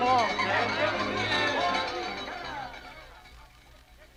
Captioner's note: bell ringing